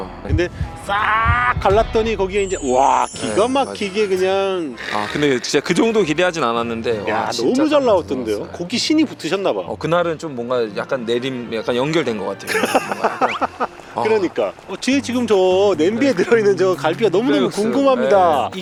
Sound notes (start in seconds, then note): 12.9 boiling